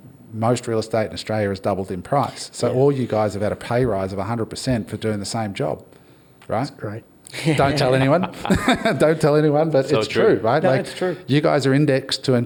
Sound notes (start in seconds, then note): 10.5 all laugh